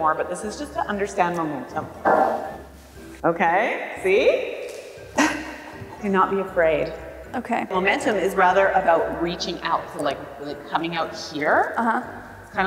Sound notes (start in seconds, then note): 5.1 laughing